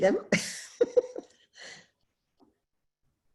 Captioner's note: laughs